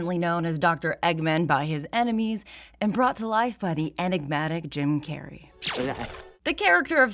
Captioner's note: electronic zap